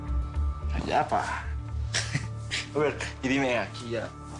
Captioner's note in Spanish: Ríe